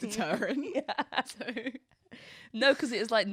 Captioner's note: both laughing; mumbles into laughter